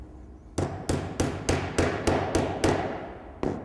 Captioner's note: bang, bang, bang